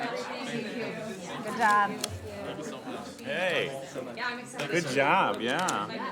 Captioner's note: background chatter